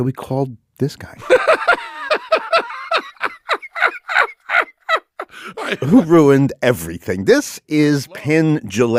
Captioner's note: laughs